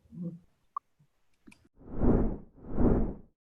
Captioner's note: swooshing Sound